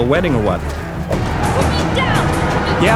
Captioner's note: yelling